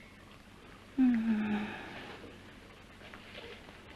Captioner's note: whimpering